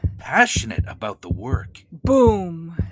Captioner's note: heart beat in the background